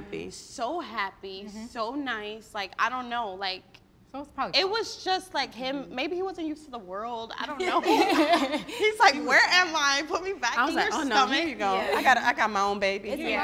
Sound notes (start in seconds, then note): 7.8 all laugh